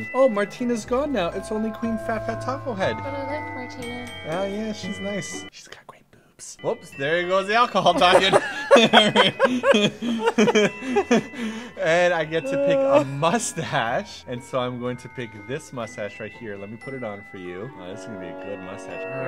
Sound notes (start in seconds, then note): 5.6 whispers; 7.9 laughs